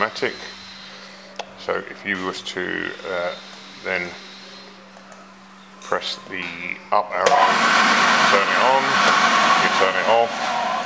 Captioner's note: sound of fan turning on